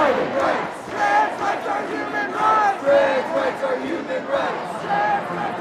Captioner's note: chant